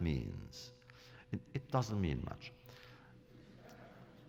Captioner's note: laughter